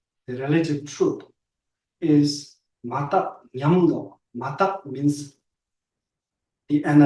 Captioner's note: tibetan